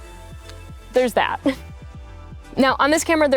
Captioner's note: chuckles